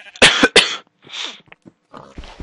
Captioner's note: coughing; sniff